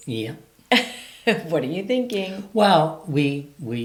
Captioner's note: chuckles